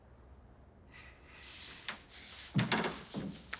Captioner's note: sighs